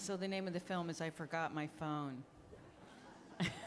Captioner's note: laughing